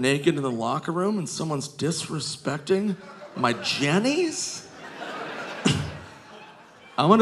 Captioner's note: scoffs